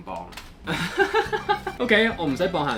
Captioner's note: laughs